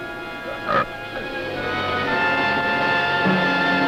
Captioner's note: burp